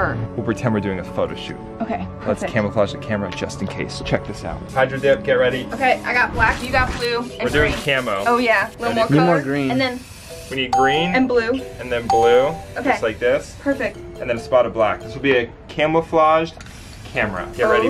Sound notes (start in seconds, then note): 5.3 paint spraying; 12.1 ding